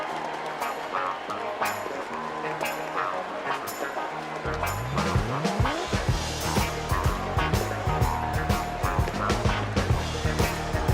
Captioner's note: cheers and applause